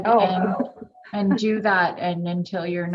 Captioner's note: laughing